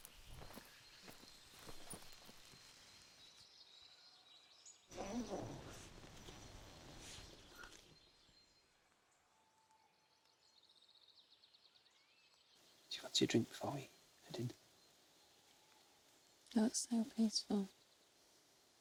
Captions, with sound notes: (birds chirping) (tent unzipping) - Do you fancy a drink before we turn in? - They look so peaceful.